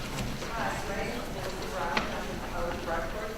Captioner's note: voiceover